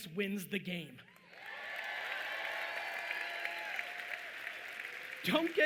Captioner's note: audience cheering loudly